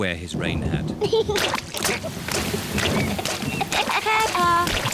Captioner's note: thunder rumbling; giggling